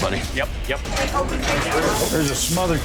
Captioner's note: chatter